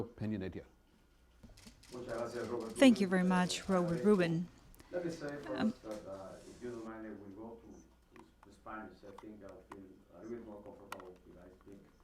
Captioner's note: through translator